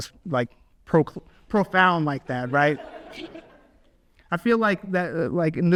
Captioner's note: audience laughs